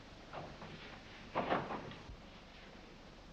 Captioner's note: door closes